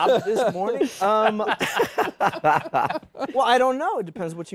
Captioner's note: laughter